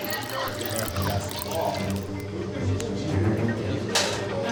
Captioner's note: liquid splashes